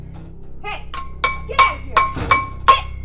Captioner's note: pan clanging